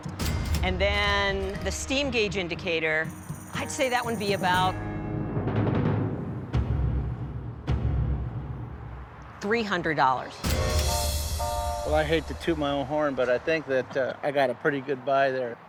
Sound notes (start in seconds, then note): 10.6 train whistle blows